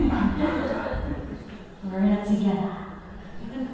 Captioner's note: laughing